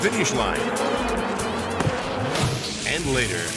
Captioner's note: bees buzzing